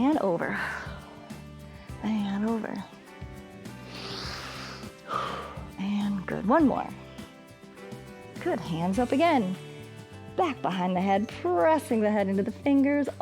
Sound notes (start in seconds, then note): 1.1 exhales; 3.6 inhales and exhales